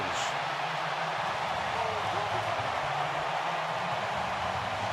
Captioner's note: cheers